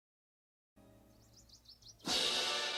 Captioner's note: bird chirping; grand orchestral music